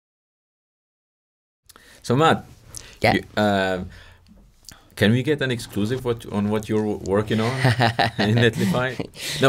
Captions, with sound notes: - So Matt. - Yeah. - Can we get an exclusivity on what you're working on, (laughs) in Netlify?